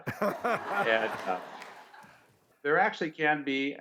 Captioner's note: audience laughs